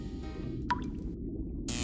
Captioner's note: water drop